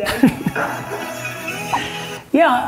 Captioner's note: laughing